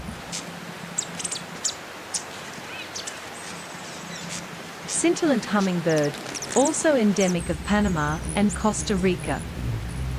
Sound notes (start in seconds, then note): 0.0 birds chirping; 0.0 buzzing; 0.0 river flowing; 1.1 bird chirping